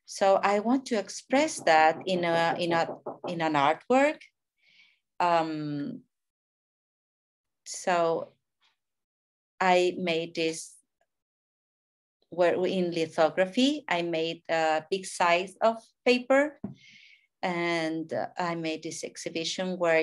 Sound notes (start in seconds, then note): 1.4 neighbor hammering